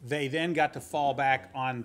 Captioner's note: none